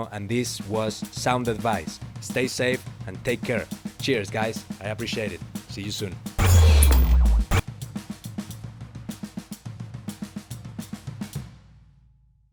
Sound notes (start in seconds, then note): 6.4 logo whirring; 6.5 upbeat percussion music